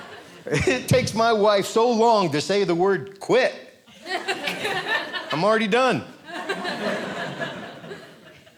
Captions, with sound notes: It takes my wife so long to say the word "quit." I'm already done. (audience laughing)